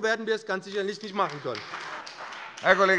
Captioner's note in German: Beifall bei dem BÜNDNIS 90/DIE GRÜNEN und der CDU